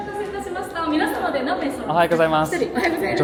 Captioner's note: cast Member speaking in Japanese